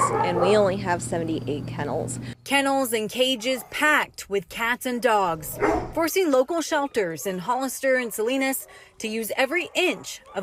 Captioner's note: nats of barking